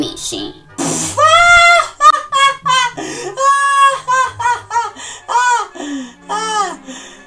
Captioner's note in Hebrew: רון צוחק